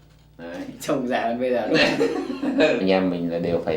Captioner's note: laugh